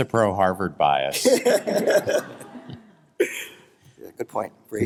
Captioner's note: laughter